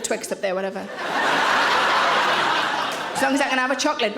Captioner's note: audience laughing